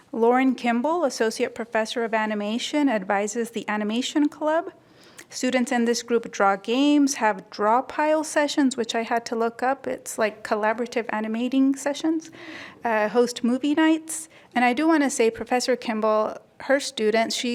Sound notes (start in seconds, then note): none